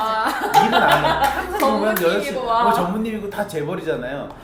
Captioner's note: laughs